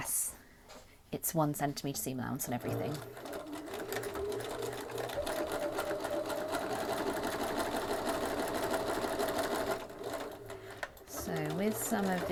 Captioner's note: machine whirring